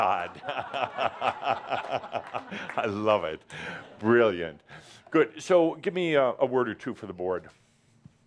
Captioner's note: laughter